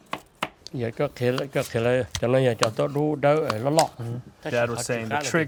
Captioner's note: speaks in Hmong